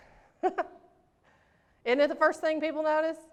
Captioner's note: laughs